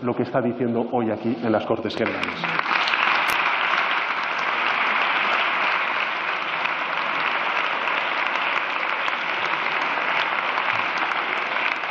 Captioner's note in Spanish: Aplausos